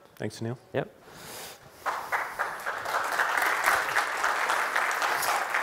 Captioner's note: applause